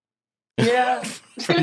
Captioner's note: laughs